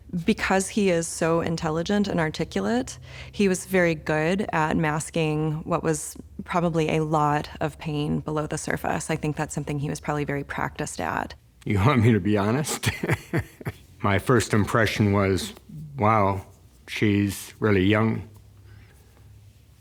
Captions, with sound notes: because he is so intelligent and articulate, he was very good at masking what was probably a lot of pain below the surface. I think that's something he was probably very practiced at. - You want me to be honest? (laughs) My first impression was, "Wow, she's really young,